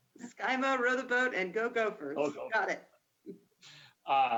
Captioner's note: murmurs